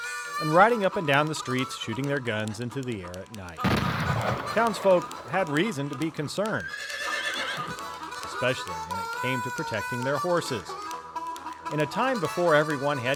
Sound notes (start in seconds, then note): 3.6 gunshot; 6.6 horse neighing